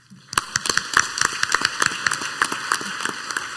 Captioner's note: clapping